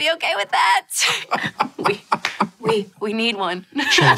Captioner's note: laughs